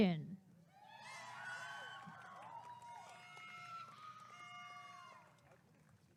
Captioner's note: applause and cheering